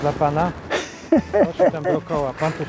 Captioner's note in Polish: laughter